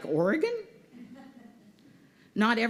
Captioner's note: laughter